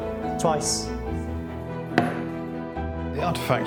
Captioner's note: gavel pounds